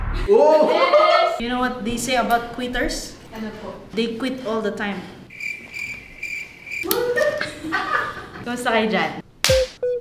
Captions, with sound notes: -Oh! -Yes! You know what they say about quitters? What? They quit all the time. [Laughs] How are you?